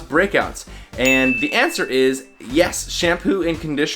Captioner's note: bell ringing